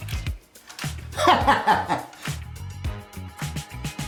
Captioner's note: laughs